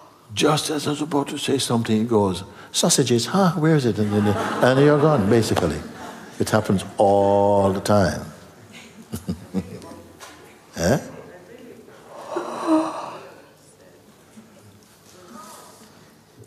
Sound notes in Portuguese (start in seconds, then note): 8.7 risos